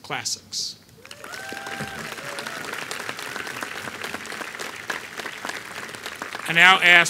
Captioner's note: applause